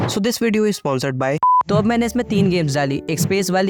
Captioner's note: beep